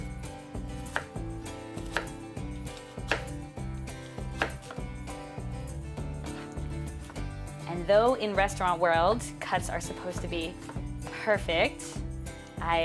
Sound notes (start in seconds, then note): 0.7 knife hitting cutting board